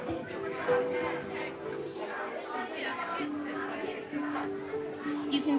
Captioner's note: soft piano music; crowd chattering